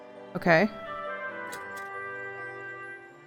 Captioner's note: none